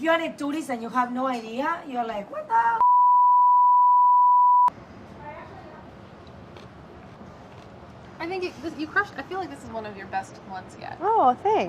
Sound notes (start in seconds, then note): 2.8 beeps; 6.9 chewing